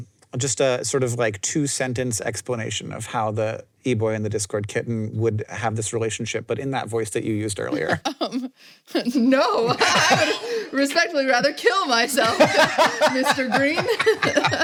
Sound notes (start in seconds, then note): 7.7 chuckles; 9.5 both laugh; 12.1 laughs